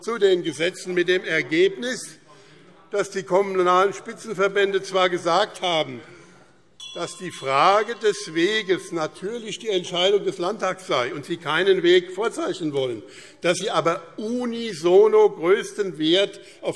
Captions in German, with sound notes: den Gesetzen mit dem Ergebnis, dass die Kommunalen Spitzenverbände zwar gesagt haben, [Glockenzeichen] dass die Frage des Weges natürlich die Entscheidung des Landtags sei und sie keinen Weg vorzeichnen wollten, dass sie aber unisono größten Wert